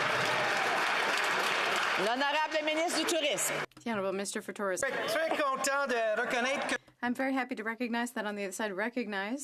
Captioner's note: some Applause